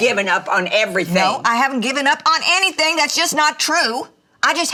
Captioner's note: none